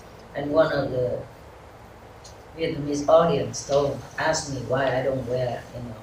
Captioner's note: Vietnamese